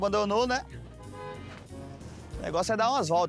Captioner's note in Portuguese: buzina